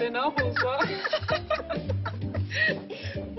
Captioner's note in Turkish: Gülüyor